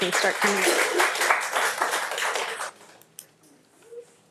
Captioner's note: audience applauds